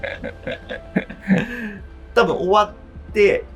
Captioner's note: laughing